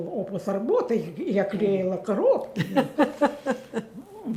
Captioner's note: laughing